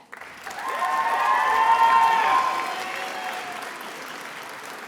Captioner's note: attendees applauding